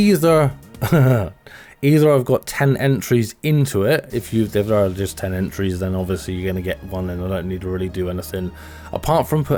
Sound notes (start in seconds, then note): 0.8 laughs